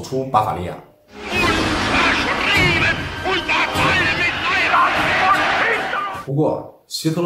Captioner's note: German speech